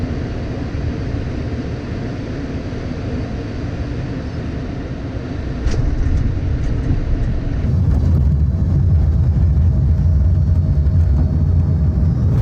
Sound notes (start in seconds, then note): 5.6 plane impacting pavement; 9.3 engines decreasing